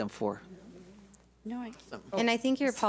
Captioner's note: speaks off mic